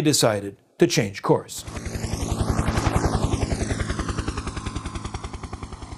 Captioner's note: helicopter in flight